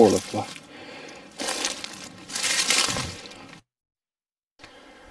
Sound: leaves rustling

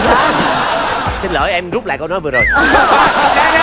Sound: laughing

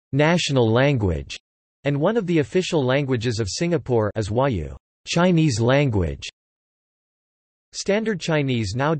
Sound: as Huáyǔ "Chinese language"

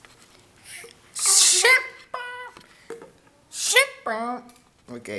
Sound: yoshi noises

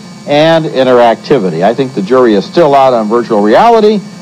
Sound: none

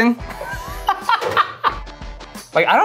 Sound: laughs

